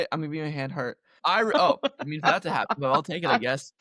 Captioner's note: laughter